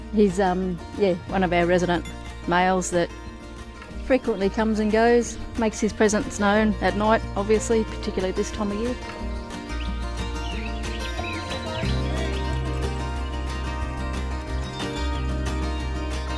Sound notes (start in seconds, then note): 9.8 birds chirping; 9.8 bright music continues